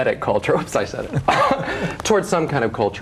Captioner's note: laughs